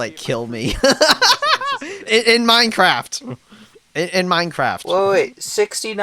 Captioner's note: laughs